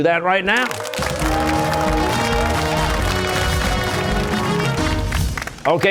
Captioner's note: cheers and applause